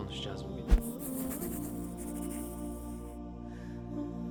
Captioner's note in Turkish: Kalemle çizme sesi